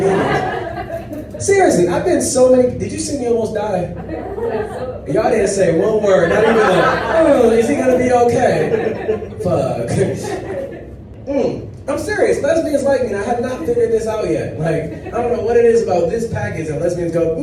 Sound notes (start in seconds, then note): 0.0 audience laughs; 4.1 audience laughs; 10.1 audience laughs